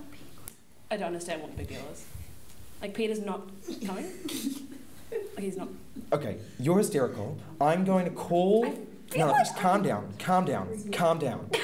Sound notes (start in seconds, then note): 5.0 giggling